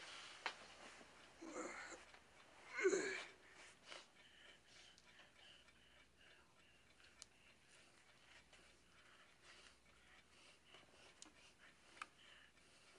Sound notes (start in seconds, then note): 1.4 groans